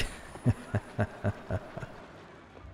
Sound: sinister chuckle

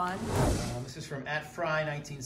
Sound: swooshing

